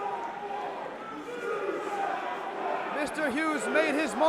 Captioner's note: crowd cheering